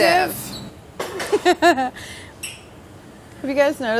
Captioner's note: laughter